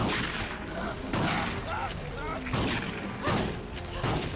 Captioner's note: gunshots booming; man screaming